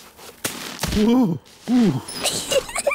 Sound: groans; giggles

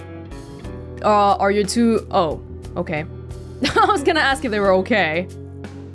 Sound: chuckles

